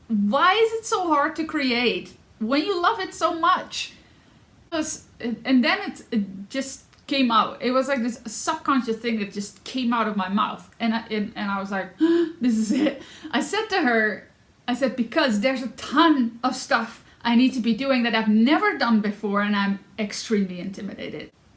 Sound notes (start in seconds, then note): 13.0 gasp